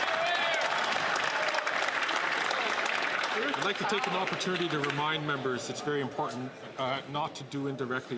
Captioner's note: some Applause